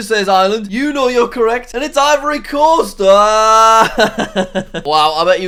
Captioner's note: laughs